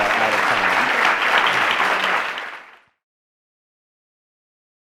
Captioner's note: audience clapping